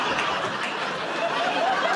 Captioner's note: laughter